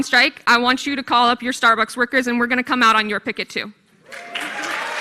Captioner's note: applause